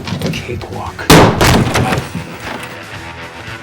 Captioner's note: gunfire